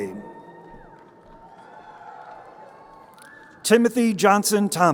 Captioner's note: crowd cheering